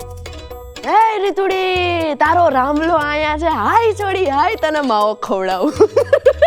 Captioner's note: Kathiyawadi accent